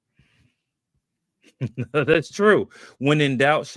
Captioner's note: chuckles